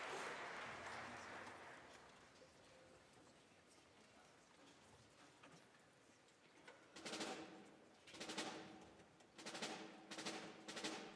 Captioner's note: applause